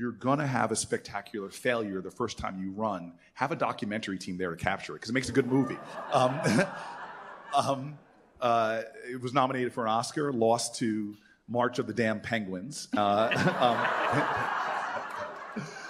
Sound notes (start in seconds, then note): 5.3 laughter; 12.9 laughter